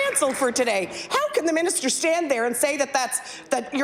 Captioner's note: applause